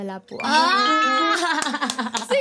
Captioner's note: laughs